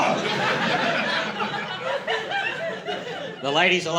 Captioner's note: laughter